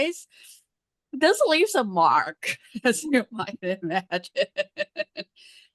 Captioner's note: laughs